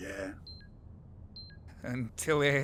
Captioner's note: computer beep